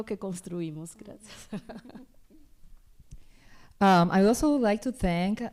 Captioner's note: laughs